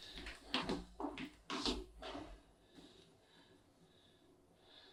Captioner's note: footsteps recede